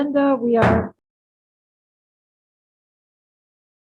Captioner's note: gavel thudding